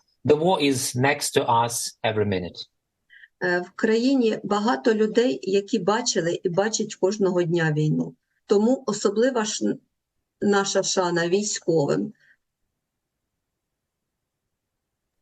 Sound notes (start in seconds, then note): 2.6 foreign language